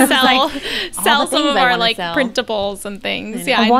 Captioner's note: they laugh